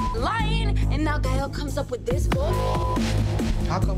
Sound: beep; beep

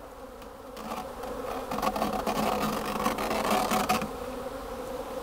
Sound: screen wire tearing

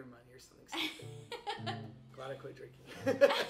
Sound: both laughing; chuckles

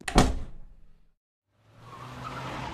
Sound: door shuts

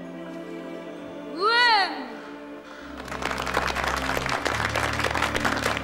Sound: all applauding

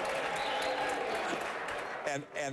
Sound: applause

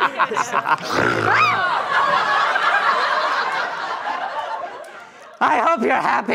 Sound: laughter; snorts

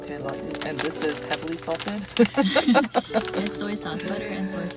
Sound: haha

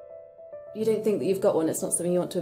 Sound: voiceover

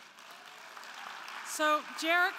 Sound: crowd clapping

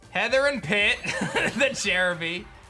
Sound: laughs

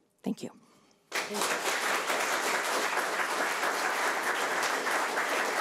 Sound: audience applauding

